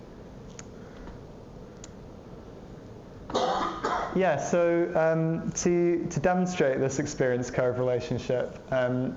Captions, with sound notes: [COUGHING] Yeah, so to demonstrate this experience curve relationship,